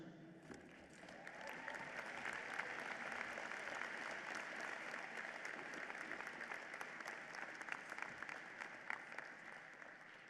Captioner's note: applause